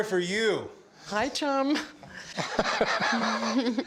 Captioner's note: laughter